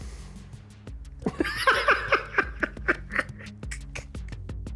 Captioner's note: laughs heartily